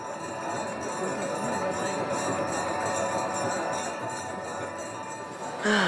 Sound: multiple bell-ringing and religious chanting

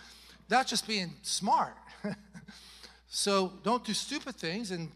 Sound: chuckles

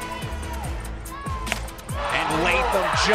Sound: ball connecting with bat

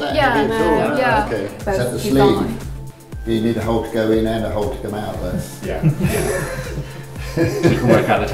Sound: laughter

